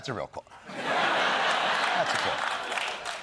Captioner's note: laughter